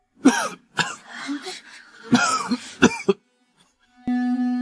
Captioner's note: cough, cough, cough